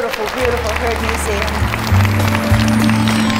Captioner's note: applause